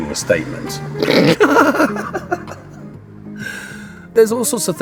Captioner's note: laughs